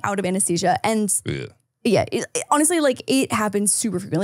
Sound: groans

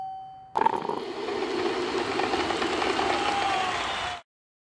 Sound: coffee whirring/crowd applause

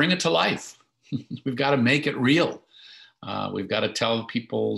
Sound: chuckles

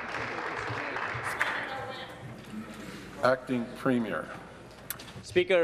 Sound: applause

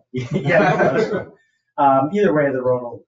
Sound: people chuckle

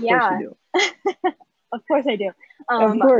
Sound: laughs

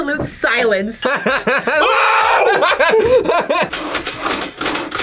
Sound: both laugh

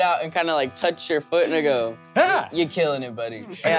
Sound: yelps

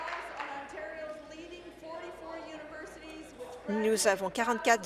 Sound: applause

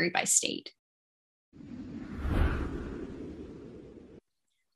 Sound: light Woosh

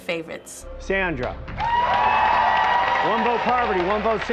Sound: applause

